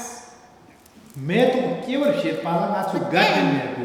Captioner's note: speaking tibetan